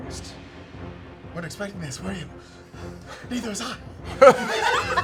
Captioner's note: pants